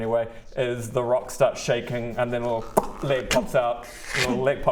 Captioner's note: pop!